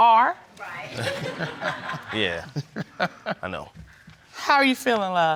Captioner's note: laughs